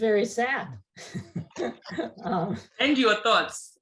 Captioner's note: laughs